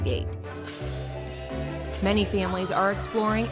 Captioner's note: warm chill music; people speaking indistinct